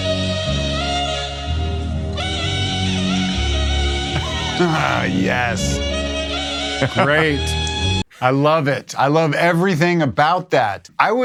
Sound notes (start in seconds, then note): 0.1 jazzy dramatic music; 4.1 laughs